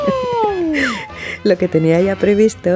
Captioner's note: laughs